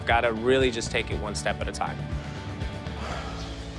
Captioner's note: exhales deeply